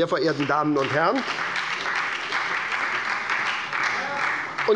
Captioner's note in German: Beifall bei der SPD und der FDP